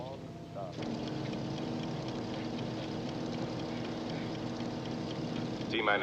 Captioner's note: computer bleeping, music in background; loud machine whirring